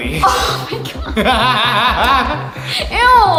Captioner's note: laughing